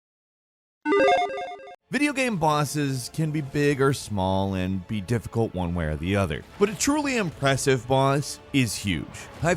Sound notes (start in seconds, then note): 0.9 logo beeps